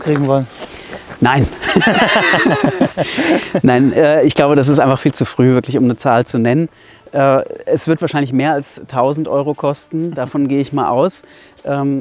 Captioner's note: laughs